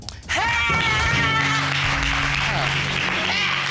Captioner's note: exclaims